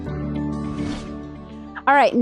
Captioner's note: screen whooshing